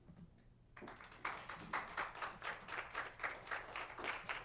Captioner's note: applause